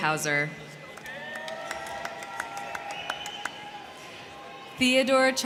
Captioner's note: crowd cheering; crowd clapping